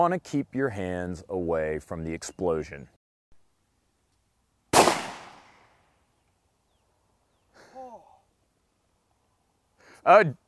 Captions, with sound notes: to keep your hands away from the explosion. (gun shot)